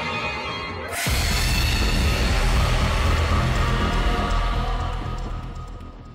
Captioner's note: monster scream